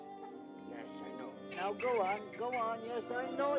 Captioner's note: Rupert chitters